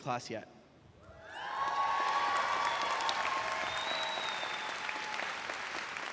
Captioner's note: graduates cheering and clapping